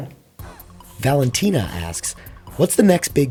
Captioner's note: voiceover